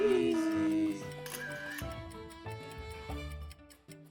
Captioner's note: camera clicks; upbeat music